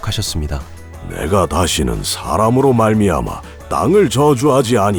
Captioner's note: biblical voice